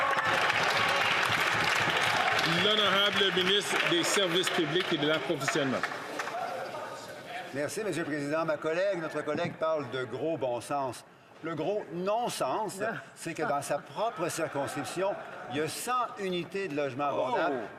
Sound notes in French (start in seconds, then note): 4.8 applaudissements; 12.8 voix de l'interprète